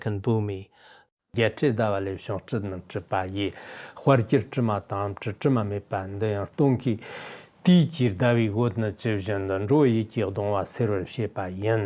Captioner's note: giving oral transmission in Tibetan